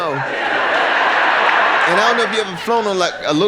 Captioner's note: audience laughter